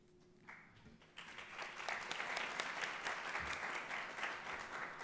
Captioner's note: audience applauds